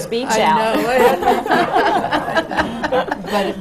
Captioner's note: laughs; laughter